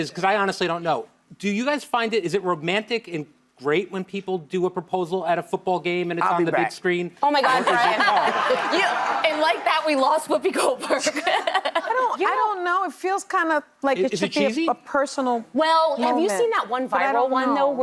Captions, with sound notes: 'cause I honestly don't know, do you guys find it, is it romantic and great when people do a proposal at a football game and it's on the big screen? Oh my God, Brian. (audience laughs) And like that, we lost Whoopi Goldberg. (laughs) I don't know, it feels kinda like it should be a personal moment. Well, have you seen that one viral one though,